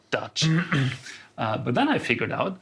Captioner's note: clears his throat